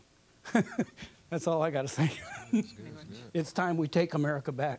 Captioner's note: laughing